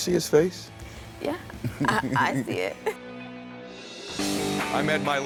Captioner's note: laughs; upbeat music